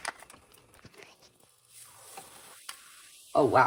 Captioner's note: hisssss!